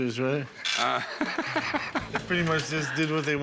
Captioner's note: laughter